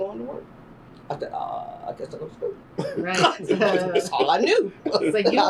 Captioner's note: laughter